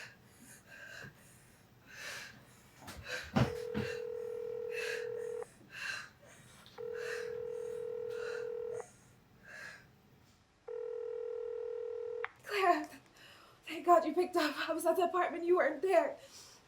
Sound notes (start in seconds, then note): 4.1 phone ringing